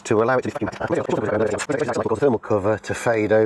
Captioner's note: speeded up talking